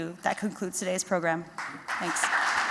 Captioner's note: applause